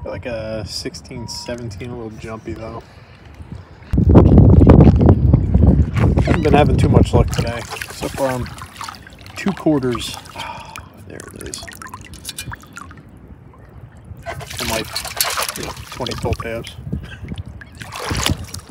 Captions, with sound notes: Got a uh, 16 17, a little jumpy though. Haven't been having too much luck today. So far I found 2 quarters. uhh, there it is. And like 20 pull tabs. [Chuckles]